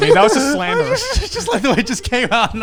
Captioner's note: all laughing